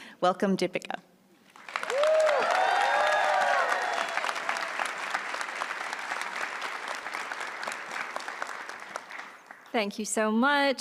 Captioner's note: applause